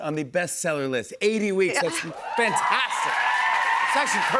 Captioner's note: cheers and applause